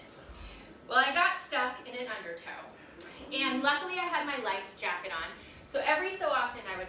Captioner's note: audience gasps